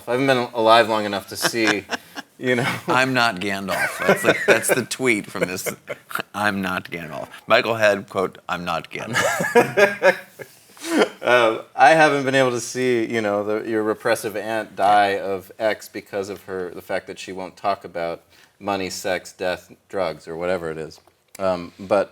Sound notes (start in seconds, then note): 2.7 laughs; 5.7 laughs; 9.1 laughs